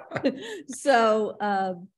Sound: chuckles

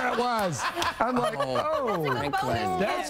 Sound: laughter

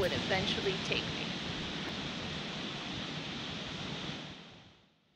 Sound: gentle waves lapping

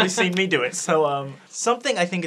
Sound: laughing

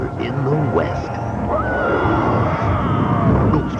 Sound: screaming

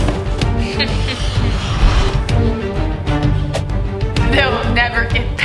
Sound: evil laughing

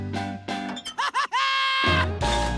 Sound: laughing

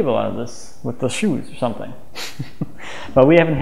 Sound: chuckles

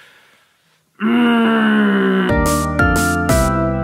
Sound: grunts; upbeat music plays

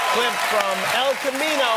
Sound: cheers and applause

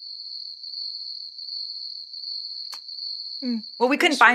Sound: crickets

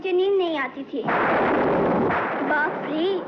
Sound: thunder Rumbling

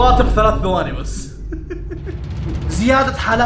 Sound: laughs

